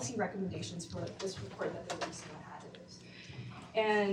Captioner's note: speaks faintly